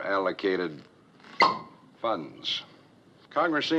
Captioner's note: cork Pops